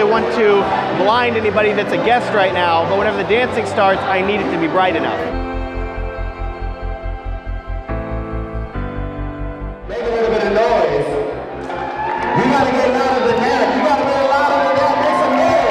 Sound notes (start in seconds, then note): 5.5 soft music; 11.3 crowd cheers